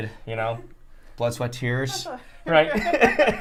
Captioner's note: laughter